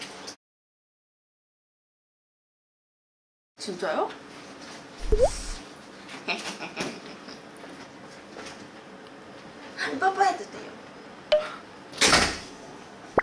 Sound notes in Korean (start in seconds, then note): 5.0 쓰읍